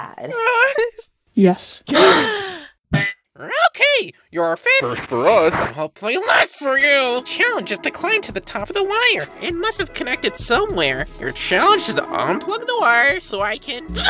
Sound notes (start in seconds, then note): 1.9 cough; 2.0 gasp